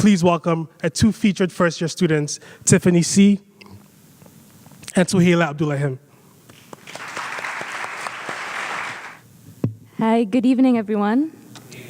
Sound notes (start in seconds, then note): 6.5 audience applauds; 6.5 claps